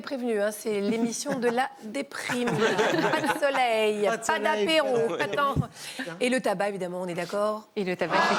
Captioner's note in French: rires